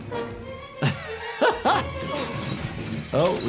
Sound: intense music; chuckling

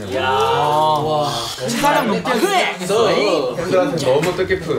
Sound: murmur

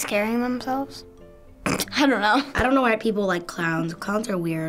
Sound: snickers

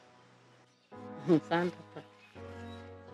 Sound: chuckles

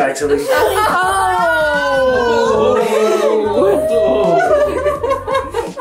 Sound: everyone laughs

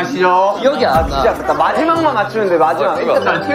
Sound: frustrated

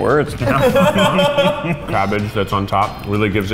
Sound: loud laughter

